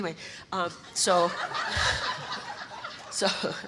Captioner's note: audience laughter